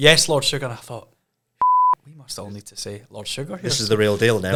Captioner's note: beep